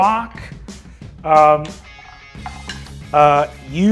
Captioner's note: die rolls